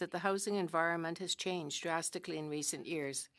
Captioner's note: speaking french